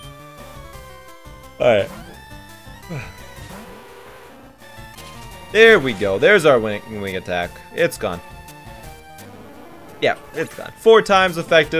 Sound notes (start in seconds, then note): 2.9 yawns